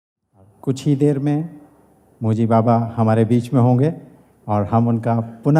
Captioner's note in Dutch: spreekt in Hindi